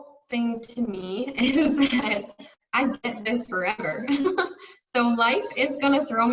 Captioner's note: giggles